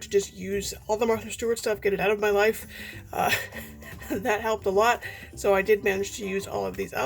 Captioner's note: laughs